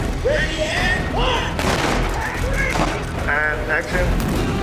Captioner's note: props booming